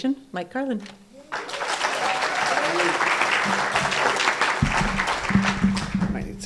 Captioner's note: applause